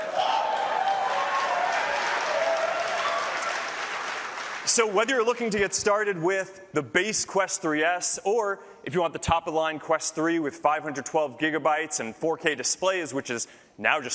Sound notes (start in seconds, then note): 4.4 applause